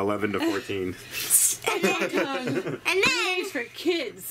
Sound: laughter

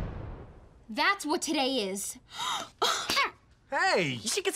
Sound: gasps

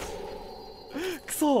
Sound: inhales

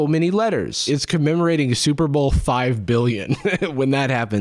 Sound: chuckles

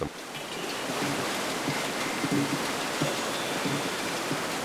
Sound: flowing water

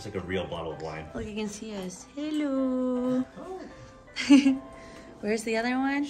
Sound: girlfriend laughs

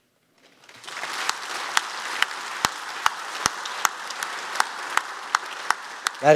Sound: applause

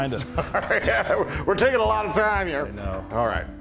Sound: laugh

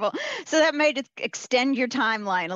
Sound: laughs

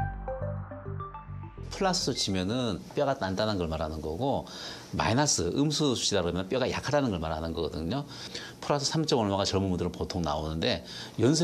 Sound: voiceover

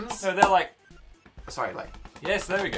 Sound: more patting noises; patting noises

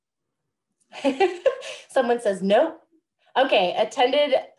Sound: laughs

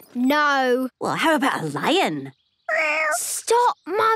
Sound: small meow

